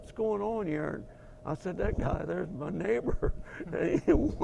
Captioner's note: laugh